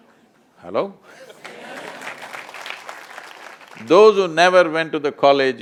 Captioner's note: applause